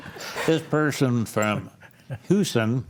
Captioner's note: panelists laughing